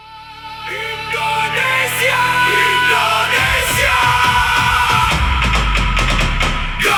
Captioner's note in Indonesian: berteriak